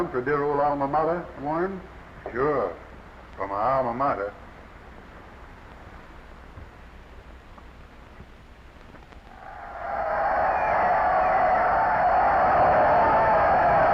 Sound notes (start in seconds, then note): 9.3 crowd cheering